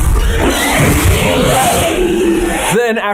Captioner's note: Basilisk screeching